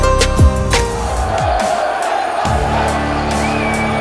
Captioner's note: All cheering